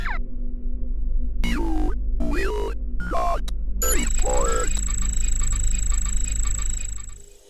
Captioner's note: robot speaking